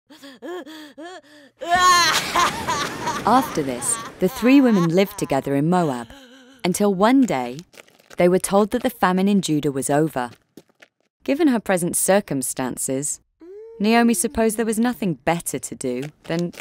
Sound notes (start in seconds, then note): 1.6 Naomi wailing